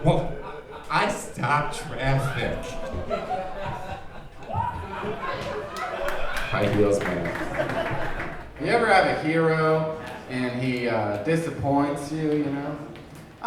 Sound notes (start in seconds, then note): 3.5 audience laughing